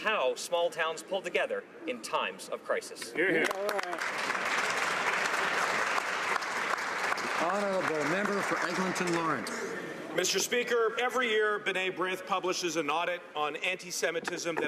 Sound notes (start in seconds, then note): 6.5 some Applause